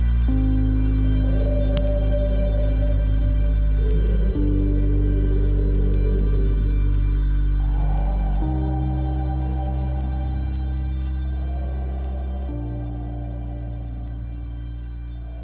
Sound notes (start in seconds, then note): 3.9 stirring music continues; 3.9 water lapping continues